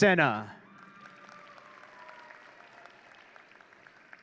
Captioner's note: audience cheering